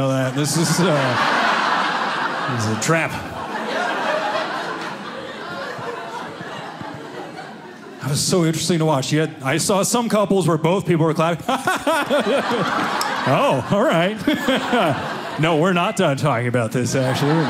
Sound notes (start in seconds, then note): 1.2 audience laughing; 3.3 audience laughing; 11.5 laughing; 13.9 audience laughing; 17.2 audience laughing